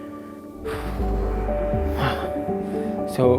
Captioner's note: sighs deeply